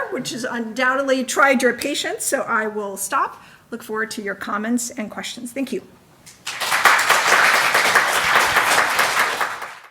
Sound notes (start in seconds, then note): 6.4 audience applauding